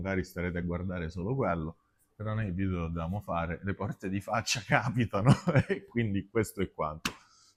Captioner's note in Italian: risate